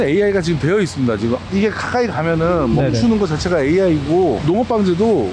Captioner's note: drone